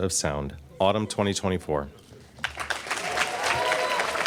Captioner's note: applause